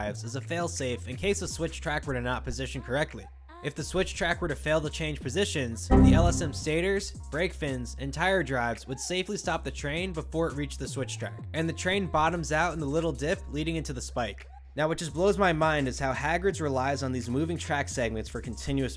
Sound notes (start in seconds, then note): 5.9 Windows error sound